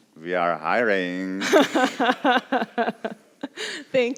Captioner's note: laughs